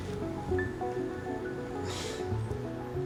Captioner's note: chuckles